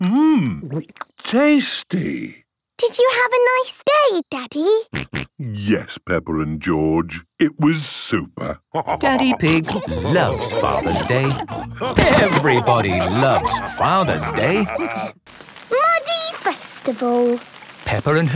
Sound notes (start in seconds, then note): 5.4 snorting; 12.8 laughter